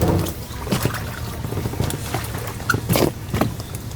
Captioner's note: water sloshing